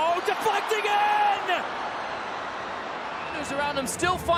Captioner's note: crowd cheers